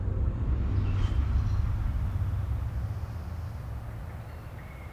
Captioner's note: birds chirping